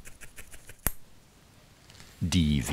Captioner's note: quiet crackling